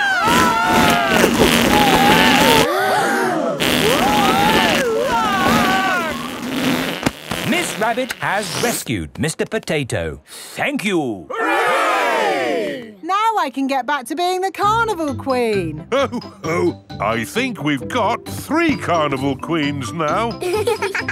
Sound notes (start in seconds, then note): 0.0 both screaming; 3.1 crowd gasps; 4.8 screaming